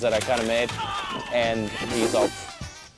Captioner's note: groans